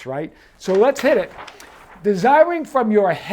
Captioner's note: paper rustles